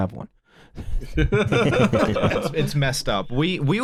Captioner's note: laughter